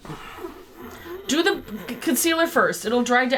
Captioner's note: groans